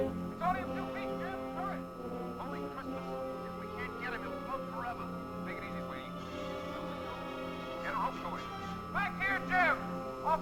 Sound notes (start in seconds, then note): 5.5 indistinct conversation